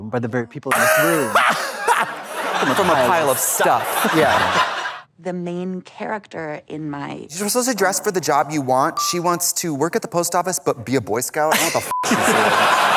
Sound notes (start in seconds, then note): 1.5 Trixie squalls; 2.8 blonde Women in unison; 11.9 beep